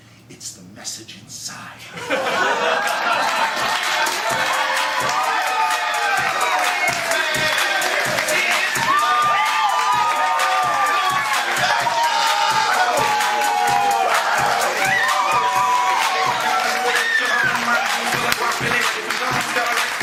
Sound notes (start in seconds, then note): 1.9 laughter; 4.1 cheers & applause; 4.1 outro music